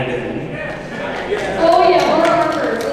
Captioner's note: clapping